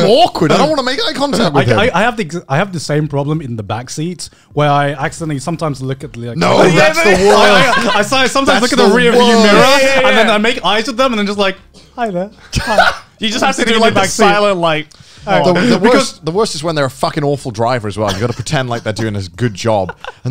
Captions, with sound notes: - I'm awkward, I don't wanna make eye contact with him. - I have the same problem in the backseat, where I accidentally sometimes look at the rear view mirror. - No, that's the worst. (laughing) - I sometimes look - That's the worst. at the rear view mirror. - Yeah, yeah, yeah. - And then I make eyes to them and then just like, hi there, hi. (laughing) - You just has to do it silent like nod. - The worst is when they're a fucking awful driver as well, you gotta pretend like they're doing this good job